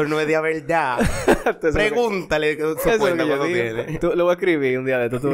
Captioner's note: laughs